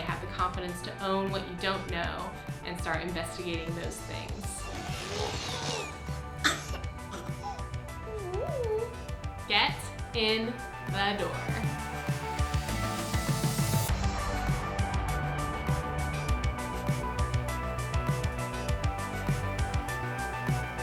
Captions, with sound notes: Have the confidence to own what you don't know. And start investigating those things. [coughs, wheezes] [coos] Get in the door.